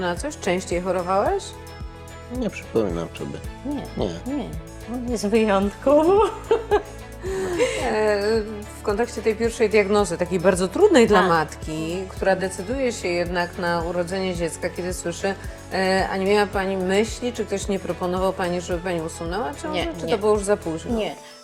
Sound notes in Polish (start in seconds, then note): 7.1 wciągnięcie powietrza